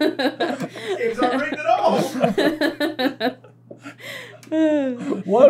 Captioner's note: laughter